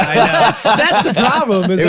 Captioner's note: all laugh